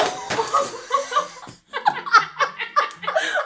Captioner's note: laughing